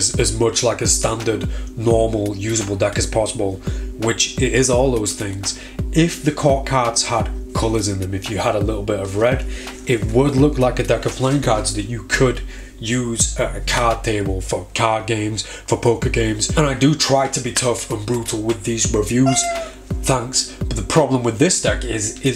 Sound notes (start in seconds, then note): 19.2 squeak